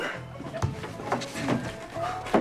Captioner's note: grunting sounds